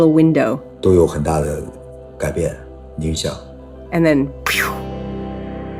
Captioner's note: speaking Mandarin Chinese